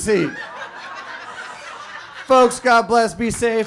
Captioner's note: audience laughs